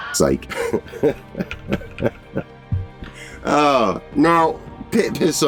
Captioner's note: laughing